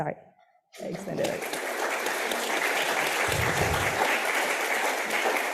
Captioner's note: audience applauding